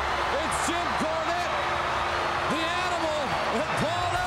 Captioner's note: applause